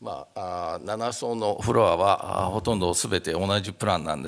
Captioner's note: speaking japanese